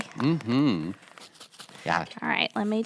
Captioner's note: shakes bag